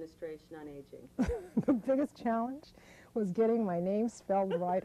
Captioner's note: laughter